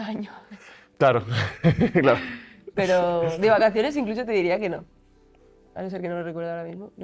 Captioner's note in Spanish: risas